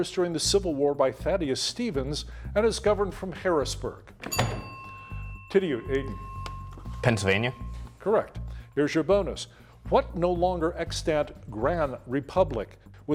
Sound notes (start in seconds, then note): 4.2 bell ringing